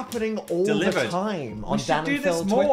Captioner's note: claps